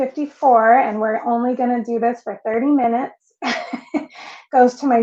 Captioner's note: laughs